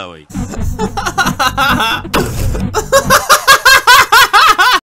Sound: laughing

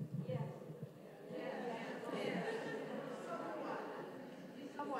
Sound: audience mumbles

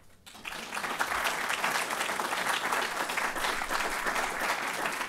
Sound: audience applauding

